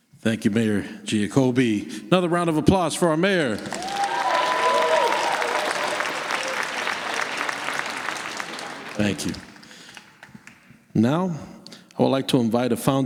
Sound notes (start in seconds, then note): 4.3 applause